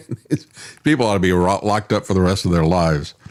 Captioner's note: laughs